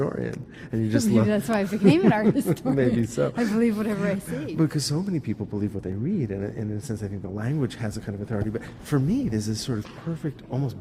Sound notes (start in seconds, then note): 1.7 chuckles